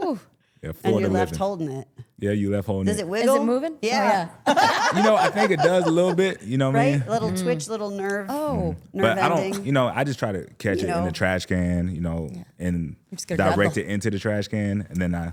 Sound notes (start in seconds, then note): 4.4 laughs